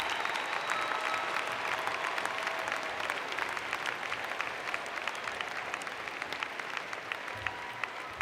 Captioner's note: cheers and Applause